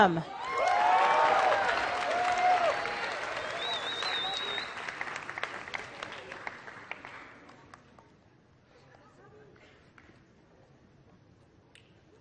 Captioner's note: applause